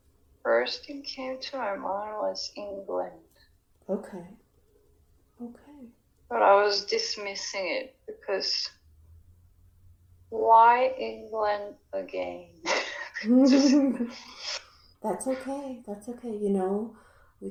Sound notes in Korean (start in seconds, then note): 12.6 웃음